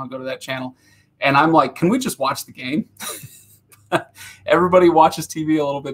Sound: laughing

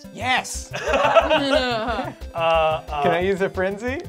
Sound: laughing

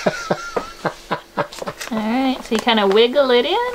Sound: laughing

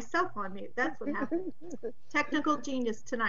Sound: chuckles

